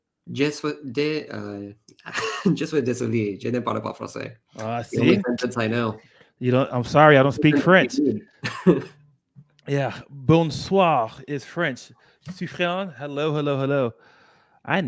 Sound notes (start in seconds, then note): 2.3 speaking french